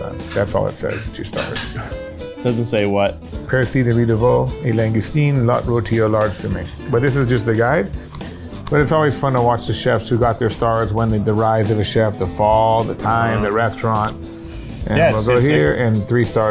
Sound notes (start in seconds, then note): 0.0 speaks in French; 3.2 speaks in French